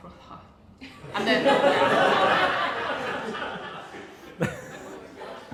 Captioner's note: audience laughs